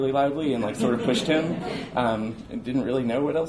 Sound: audience laughs

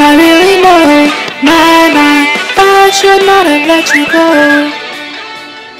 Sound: bird sings

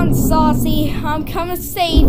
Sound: none

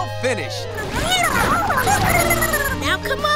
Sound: squeaking

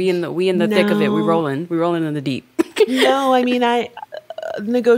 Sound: chuckles

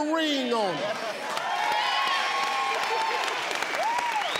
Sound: audience cheers

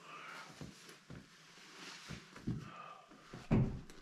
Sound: sighs

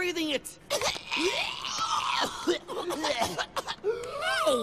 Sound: human & monster pain

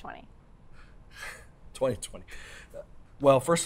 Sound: laughs

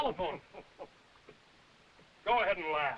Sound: chuckling and coughing

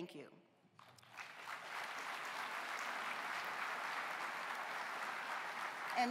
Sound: applause

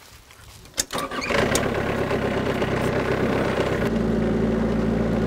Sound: loud engine droning

